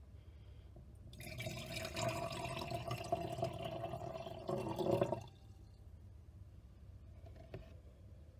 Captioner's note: sound of water being poured into glass